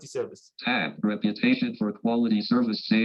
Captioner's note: automated Voice